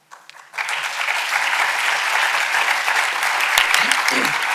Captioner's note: audience applauding